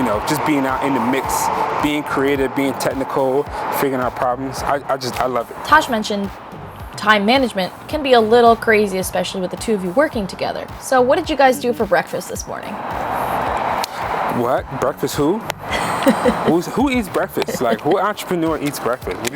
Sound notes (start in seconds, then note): 15.7 laughs